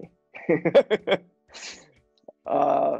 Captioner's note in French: rire